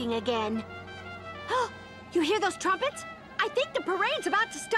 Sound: gasp

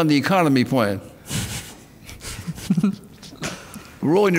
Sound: laughing

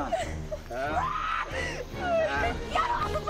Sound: screams

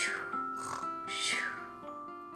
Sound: snorning

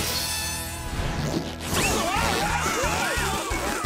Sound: Wartimer and Snout screaming

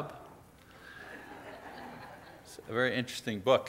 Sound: audience laughs

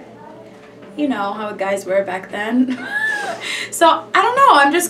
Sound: wheezing

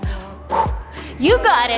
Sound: huffs air out

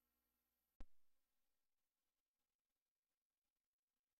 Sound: silence

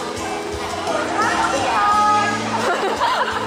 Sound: laught

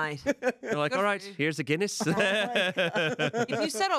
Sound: laughs

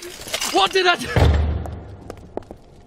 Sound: door slams

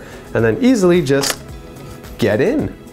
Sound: door unlocking

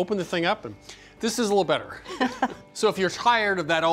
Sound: laughs

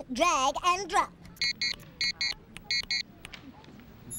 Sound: beeping

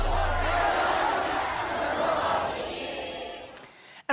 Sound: crowd shouting

